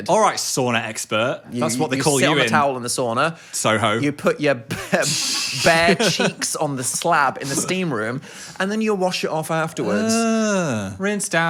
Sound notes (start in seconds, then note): 3.8 laughs